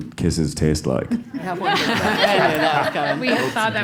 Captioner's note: laugh